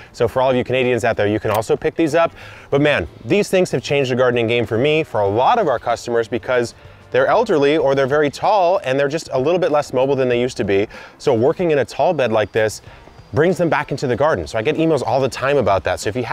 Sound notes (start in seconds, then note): none